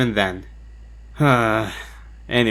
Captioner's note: sighs